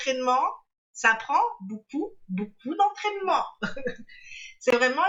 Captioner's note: laughs